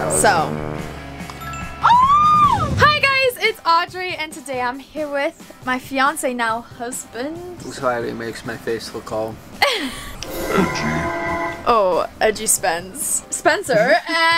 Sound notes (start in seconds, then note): 1.4 ding; 1.8 cheerfully screams; 10.2 high pitched chime